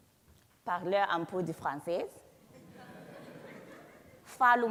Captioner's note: speaks foreign language